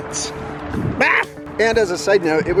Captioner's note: yells